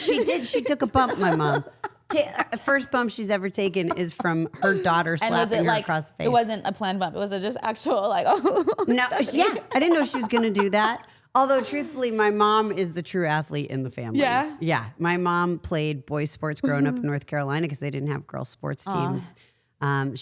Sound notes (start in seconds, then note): 8.4 chuckles